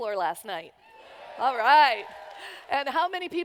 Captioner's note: cheers